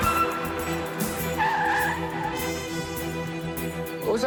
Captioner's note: tires screeching